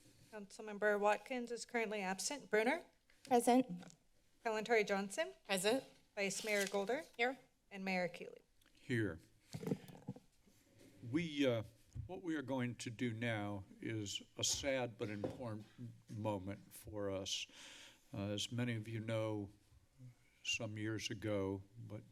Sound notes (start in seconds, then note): 9.6 mic rustling sound